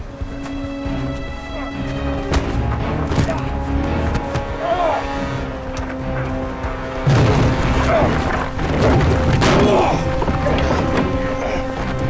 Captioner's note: shouting & commotion